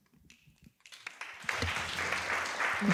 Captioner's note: applause